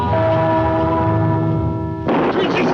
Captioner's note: thunder clap